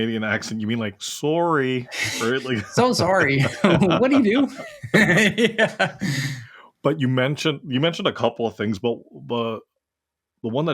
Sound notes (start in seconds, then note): 1.8 laugh